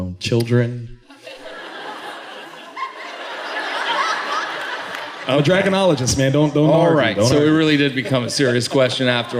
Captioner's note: laughter